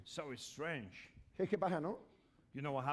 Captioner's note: speaking spanish